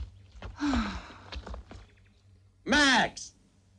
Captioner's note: sighs